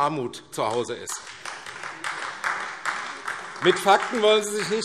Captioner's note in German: Beifall AfD